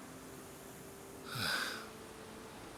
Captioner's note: sigh